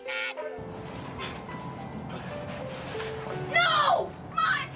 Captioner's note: child's voice; sounds of struggle